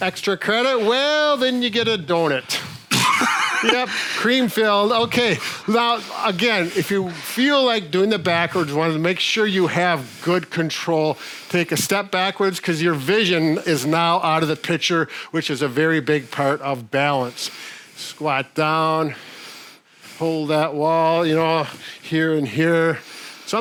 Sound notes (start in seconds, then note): 2.9 snort laughing